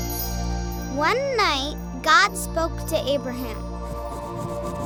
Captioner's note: voiceover